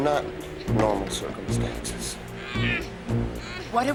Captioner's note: groaning